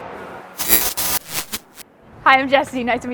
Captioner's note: energetic music; static fizzing